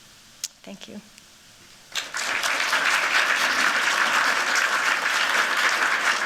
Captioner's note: applause